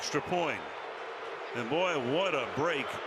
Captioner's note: crowd boos